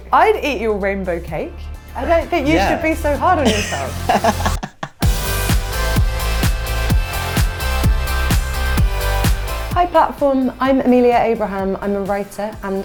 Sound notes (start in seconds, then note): 3.4 laughter; 4.9 upbeat music